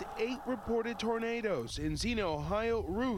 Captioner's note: sirens